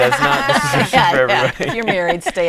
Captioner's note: laughing